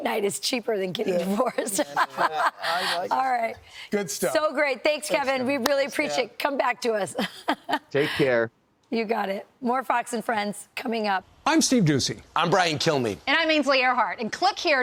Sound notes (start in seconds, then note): 7.1 laughter